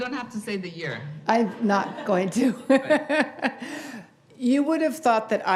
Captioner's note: laughs